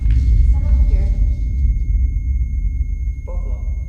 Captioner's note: sustained ringing tone begins